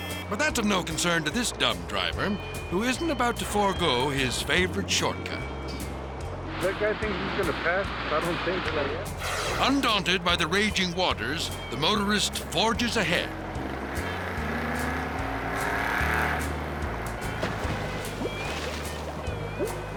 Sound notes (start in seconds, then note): 14.4 engine revving; 14.4 upbeat music